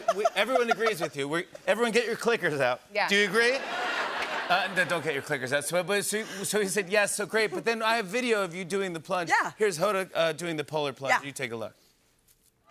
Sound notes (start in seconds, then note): 3.4 laughter